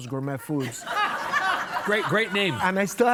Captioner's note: audience laughing